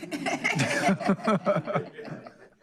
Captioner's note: laughter